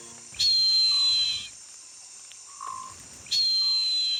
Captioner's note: eagle screeching